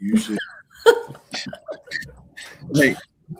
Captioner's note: laughing